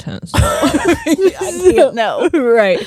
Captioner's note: both laughing